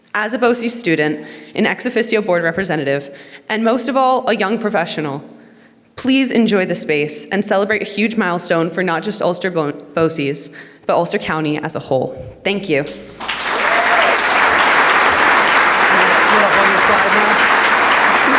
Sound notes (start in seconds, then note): 13.2 audience applauds